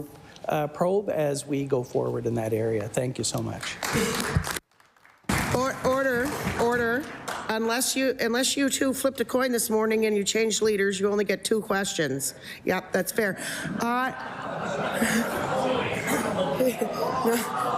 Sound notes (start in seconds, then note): 8.3 some Applause